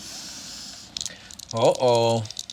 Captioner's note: dice rattling